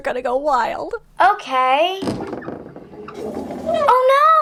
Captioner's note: sound of opening and closing a closet; dramatic piano music